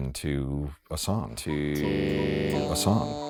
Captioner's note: voice in digital stutter